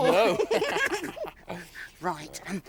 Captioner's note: both laugh